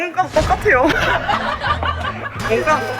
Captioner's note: hahahaha